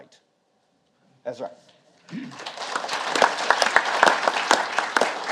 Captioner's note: audience applauding